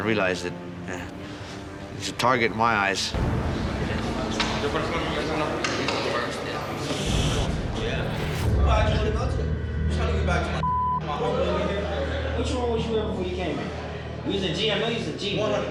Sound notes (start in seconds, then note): 3.7 speaking foreign language